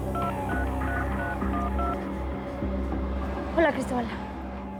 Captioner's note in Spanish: sonido al marcar